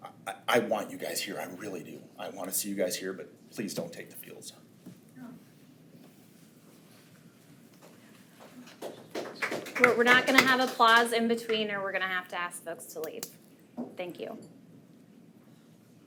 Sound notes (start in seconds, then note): 8.4 attendees applaud